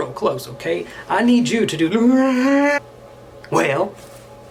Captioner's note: yawns